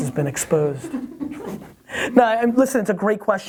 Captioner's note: everyone laughs